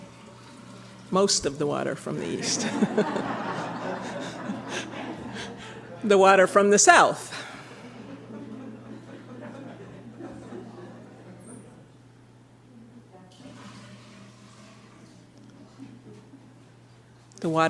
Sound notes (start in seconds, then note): 2.5 laughter